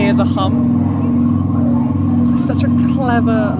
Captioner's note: humming